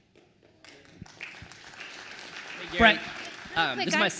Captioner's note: attendees applauds